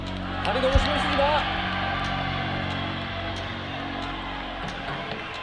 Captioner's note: 박수